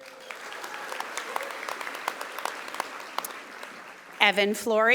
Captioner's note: audience applauding